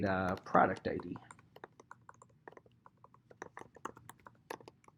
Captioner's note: keyboard clacking